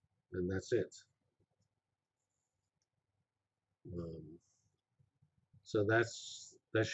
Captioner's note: pause